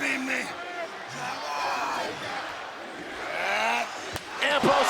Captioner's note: audience chanting